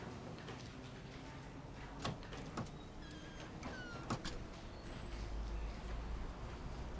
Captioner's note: door opening, closing